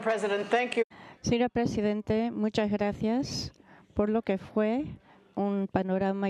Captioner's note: speaking foreign language